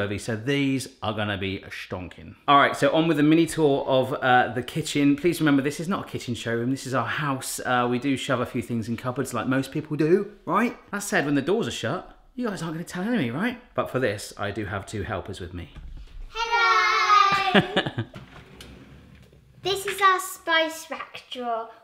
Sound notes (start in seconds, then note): 16.5 in Unison; 17.3 chuckles